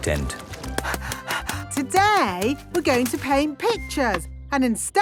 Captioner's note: panting